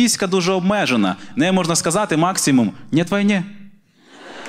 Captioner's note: with russian accent